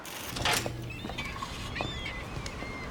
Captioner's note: sea gulls cry